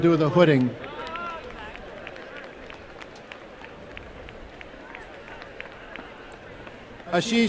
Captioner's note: applause